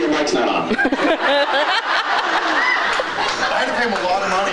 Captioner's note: laughs